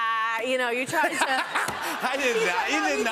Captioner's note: laughter